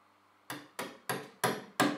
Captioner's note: hammering